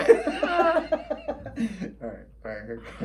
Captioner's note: laughing